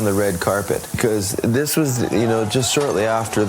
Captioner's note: people angrily shouting